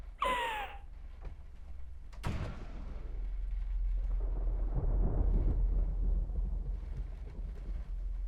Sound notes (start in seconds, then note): 4.3 thunder rolling